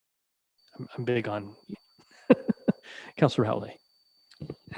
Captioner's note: laughing